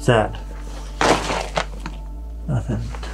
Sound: debris shuffles

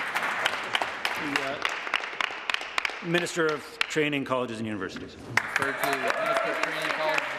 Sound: applause

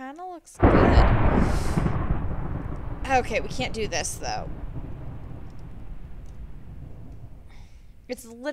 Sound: thunder

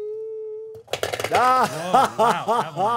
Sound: marbles clattering; laughing

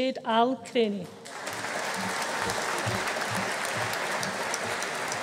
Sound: audience applauding

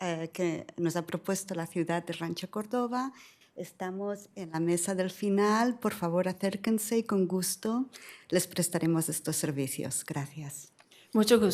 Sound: speaking spanish

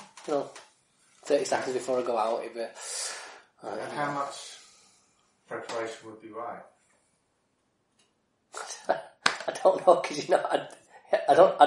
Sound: deep breath; laughs

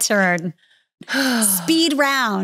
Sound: sighs

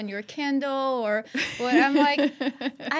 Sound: laughing

